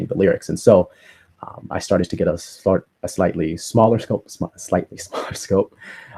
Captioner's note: laughter